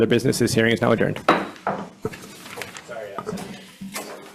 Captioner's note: gavel bangs